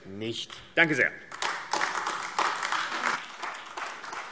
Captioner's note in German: Beifall AfD